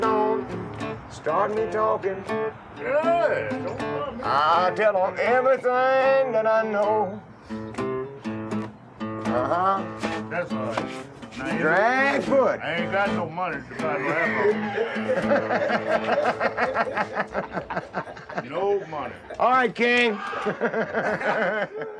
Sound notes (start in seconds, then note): 15.1 laughing